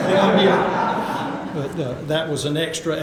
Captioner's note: audience laughter